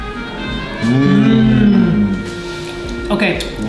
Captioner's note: both moan